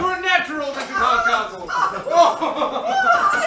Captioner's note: laughter